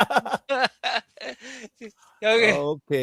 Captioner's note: laughter